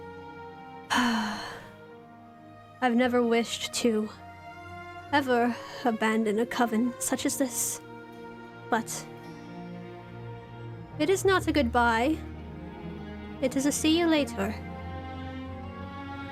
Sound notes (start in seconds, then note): 0.9 ROSE sighs